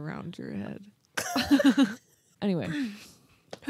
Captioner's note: laughing